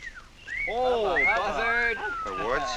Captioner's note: whistling